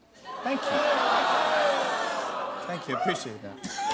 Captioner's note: audience ohs; laughs